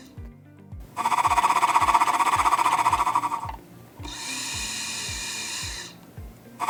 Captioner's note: sound of machine fluttering